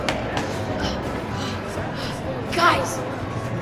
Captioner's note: panting